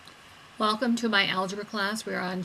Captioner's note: voiceover